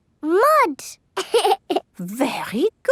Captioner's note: laughs